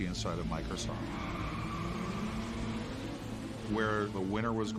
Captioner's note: car motors roaring